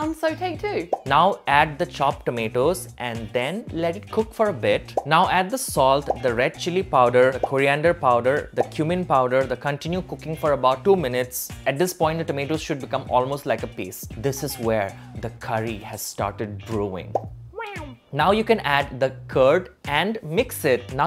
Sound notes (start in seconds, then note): 17.6 meows